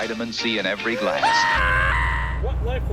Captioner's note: Shinji screaming for Tang